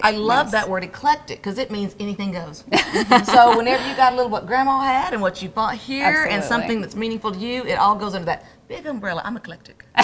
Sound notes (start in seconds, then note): 2.7 laughs